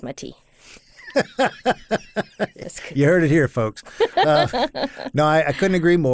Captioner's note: laughs